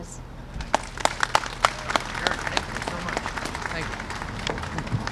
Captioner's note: applause